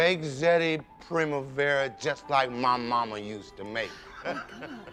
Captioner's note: laughs